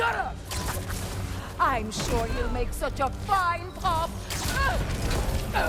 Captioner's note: laughs